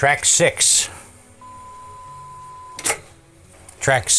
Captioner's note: beeping